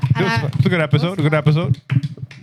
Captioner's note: speaking Spanish